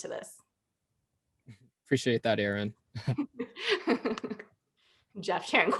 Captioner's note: laughter